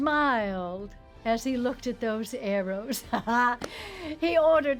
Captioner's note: laughs